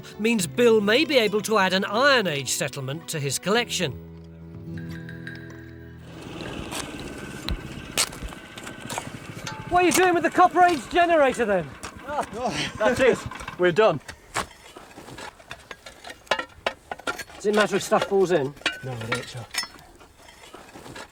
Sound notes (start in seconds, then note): 6.0 fan whirring